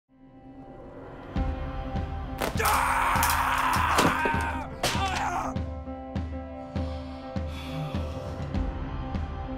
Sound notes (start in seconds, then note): 1.1 upbeat music; 2.4 screaming; 3.1 whacking; 6.6 heavy breathing